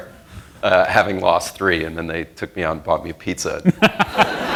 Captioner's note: laughs; laughter